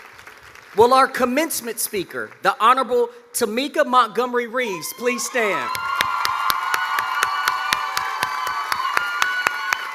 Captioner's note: applause